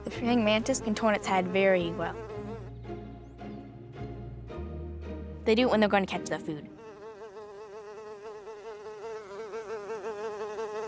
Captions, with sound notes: - The praying mantis can turn its head very well. They do it when they're gonna catch their food. (buzzing)